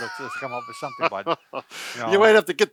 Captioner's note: laughing